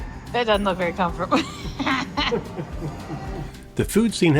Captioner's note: laughs